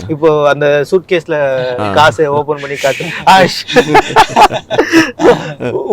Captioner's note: they both laugh about it